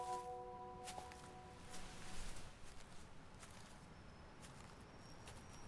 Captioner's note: footsteps